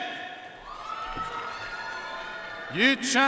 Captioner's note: audience cheering and applauding